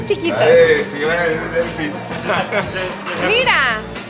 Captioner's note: speaking Spanish